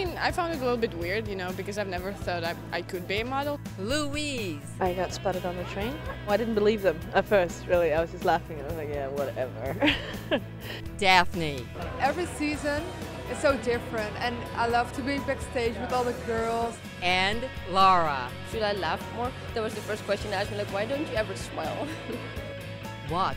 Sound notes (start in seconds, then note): 9.8 laughs